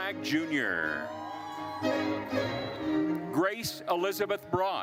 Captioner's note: attendees cheering